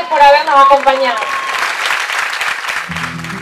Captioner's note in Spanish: aplausos